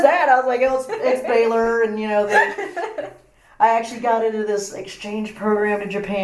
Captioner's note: laugh